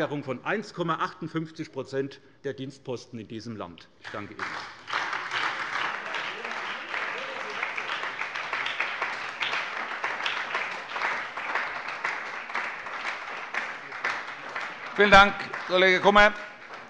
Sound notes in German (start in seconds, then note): 4.0 Beifall bei der SPD